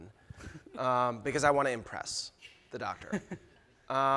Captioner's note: chuckling